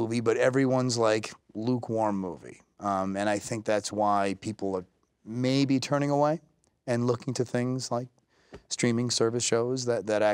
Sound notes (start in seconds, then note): none